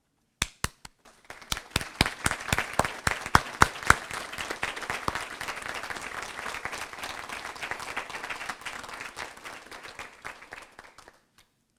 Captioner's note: applause